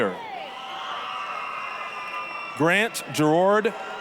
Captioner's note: applause, cheering